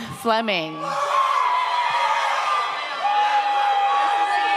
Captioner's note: audience cheers